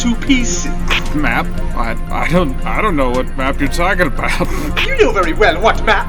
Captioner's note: snickering